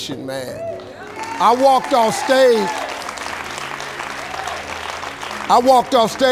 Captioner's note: audience applauding